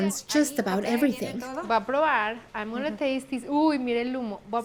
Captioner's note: both speaking Spanish